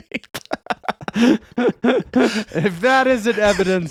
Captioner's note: laughing